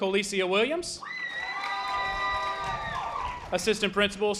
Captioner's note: audience applause